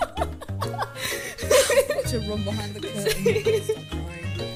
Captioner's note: laughing; sigh